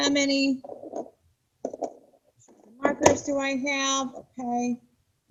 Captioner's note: markers clacking